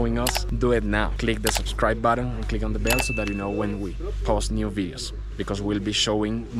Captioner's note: bell